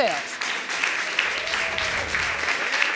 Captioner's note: audience applauding